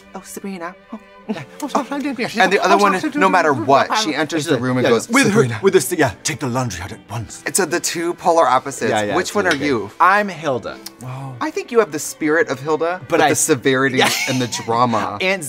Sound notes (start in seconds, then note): 1.8 softly mumbling